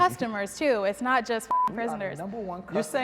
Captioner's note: beep sound